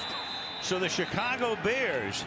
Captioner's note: whistle